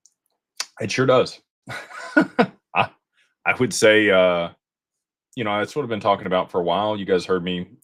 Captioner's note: laughter